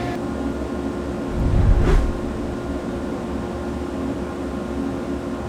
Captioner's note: air whooshes